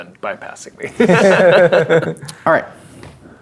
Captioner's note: players laughing